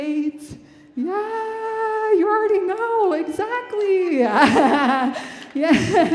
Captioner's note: laughing